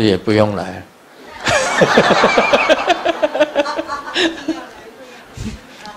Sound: Grandmaster and audience laugh

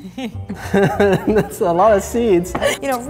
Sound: laughing

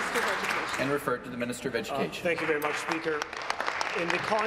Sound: applause

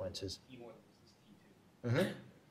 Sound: speaking faintly

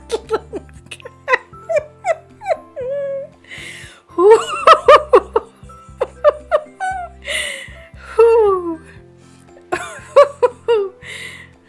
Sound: deep breathe to compose myself

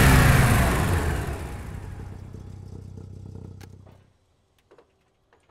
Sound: car engine shutting off

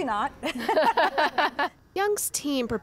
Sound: laughter

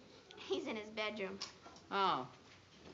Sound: chuckling

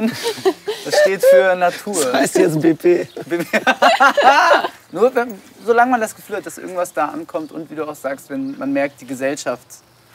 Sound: laughs

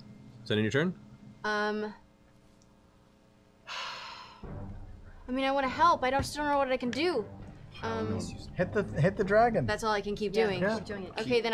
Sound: sighs

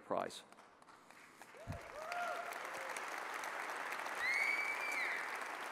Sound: audience applauds and cheers

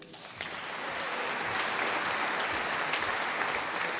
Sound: audience applauding

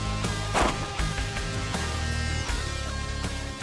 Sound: gunshot

